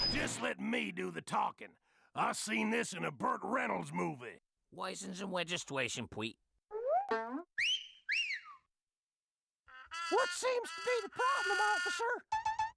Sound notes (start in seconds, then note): 7.5 Elmer whistling